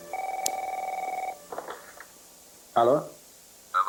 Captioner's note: phone rings